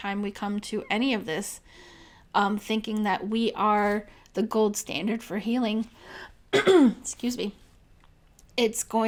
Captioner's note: clears throat